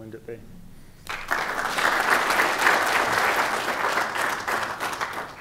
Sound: applause

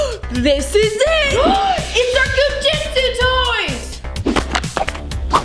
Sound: gasps

